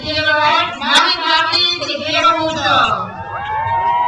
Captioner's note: speaks in foreign language; crowd cheers